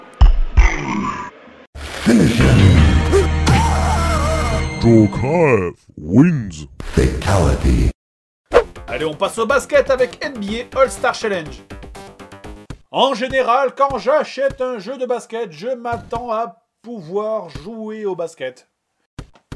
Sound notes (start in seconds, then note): 1.6 punch; 3.5 scream